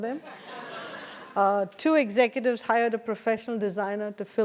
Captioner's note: laugh